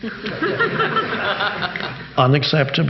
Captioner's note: audience laughing